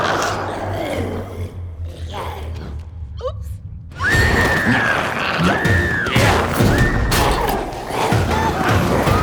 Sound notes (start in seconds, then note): 0.0 glowzies growling; 3.9 screams; 4.0 glowzies growling; 6.3 dramatic music